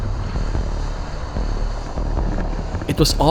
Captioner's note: suspenseful music; motor buzzes